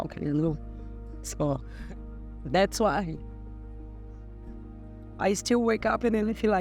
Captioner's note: voice breaking